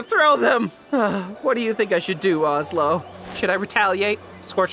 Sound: sighs

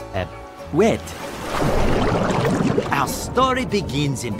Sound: bubbles popping

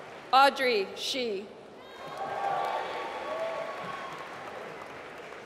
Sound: applause

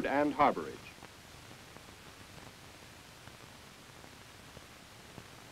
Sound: silence

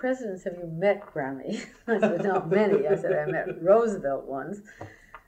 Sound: laughter

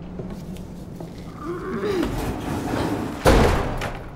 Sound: Max grunts; motor creaks; motor thuds

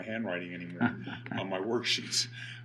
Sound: laughing

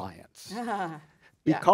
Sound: chuckles

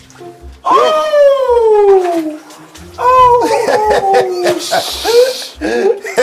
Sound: men laughing

